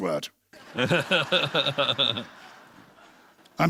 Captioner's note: laughter